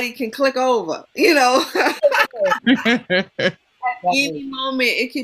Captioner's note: laughter